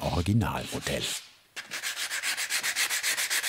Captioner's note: sanding noises